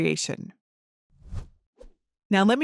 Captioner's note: transition whooshes